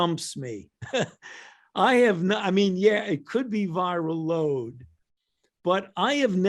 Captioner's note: chuckles